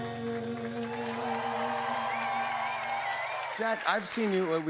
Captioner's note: cheers and applause